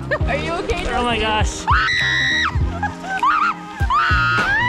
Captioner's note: terrified screams